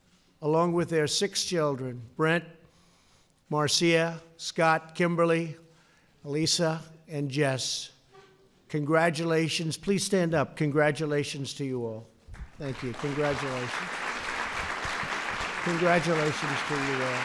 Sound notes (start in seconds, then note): 12.4 applause